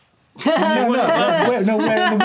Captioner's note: laughing